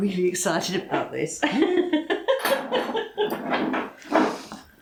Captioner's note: laffin